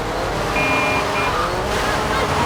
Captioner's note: tires squealing; buzzer